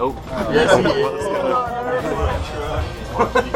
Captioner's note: laughing